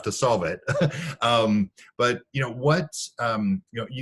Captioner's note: laughing